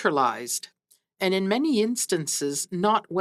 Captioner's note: speaking French